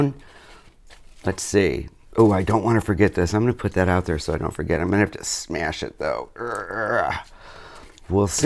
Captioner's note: groaning